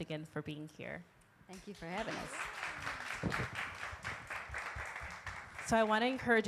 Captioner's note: audience applauding